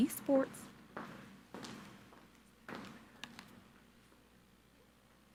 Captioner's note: footsteps plodding